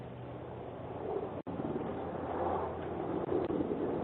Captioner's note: fire tanker roaring